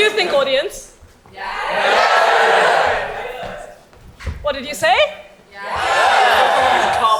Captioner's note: audience yells a mix of yes and no